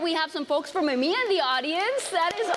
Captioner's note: applause